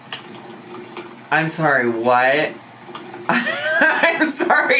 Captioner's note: laughing